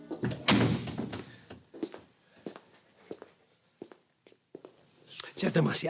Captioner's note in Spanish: sonido al cerrar la puerta